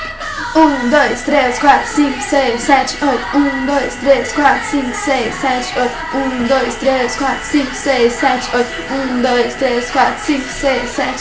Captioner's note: counting